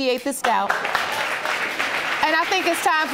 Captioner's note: audience applauding